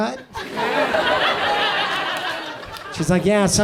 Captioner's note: audience laughs